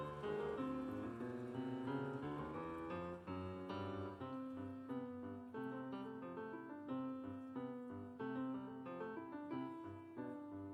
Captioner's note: applause